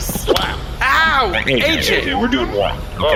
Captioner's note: AJ slaps Pleck